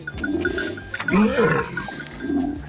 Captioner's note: camel grunting